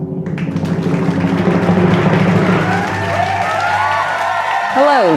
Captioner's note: drum roll; audience clapping